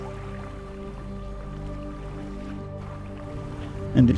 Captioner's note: gulps, inhales deeply; water lapping on shore